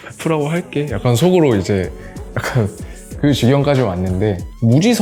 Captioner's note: laugh